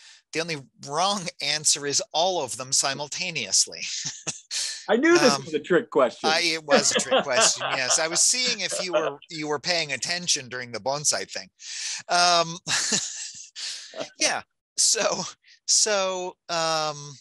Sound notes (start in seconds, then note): 3.7 chuckling; 7.2 laughing; 11.2 chuckling